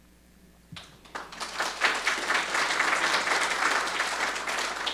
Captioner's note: audience applauding